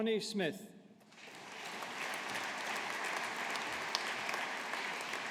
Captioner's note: audience applauding